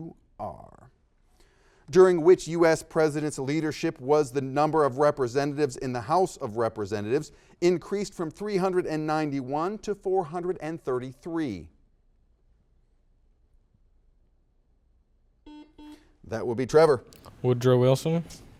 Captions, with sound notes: During which US President's leadership was the number of representatives in the house of representatives increased from 391 to 433? (silence) (series of beeps) That will be Trevor. - Woodrow Wilson?